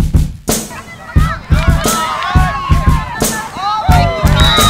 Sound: upbeat music; kids cheering

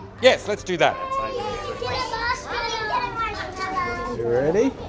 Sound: children chattering excitedly

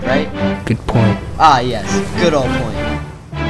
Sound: laughs

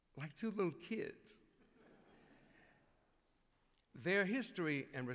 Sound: laughter

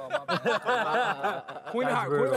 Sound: laughing

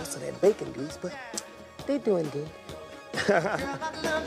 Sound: laughs

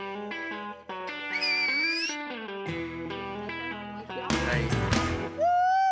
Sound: whistles

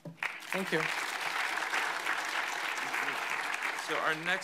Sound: audience applauds

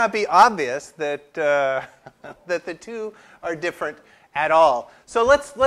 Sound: laugh

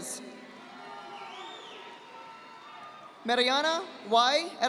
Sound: audience applauding

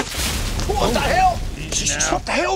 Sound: leaves rustling; yelling

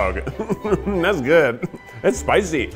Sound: laughing

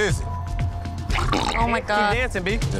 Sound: hot sauce gurgling

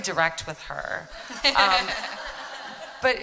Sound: laughter

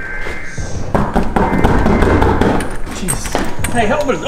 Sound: knocking on door

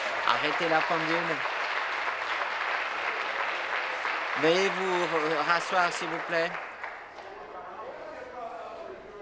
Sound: applause

